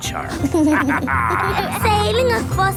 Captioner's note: captain dog and kids laughing